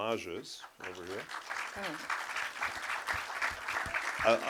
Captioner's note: applause